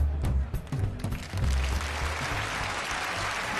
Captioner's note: audience applauding